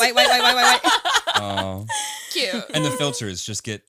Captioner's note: all laughing